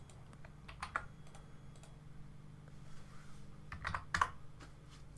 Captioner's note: keyboard typing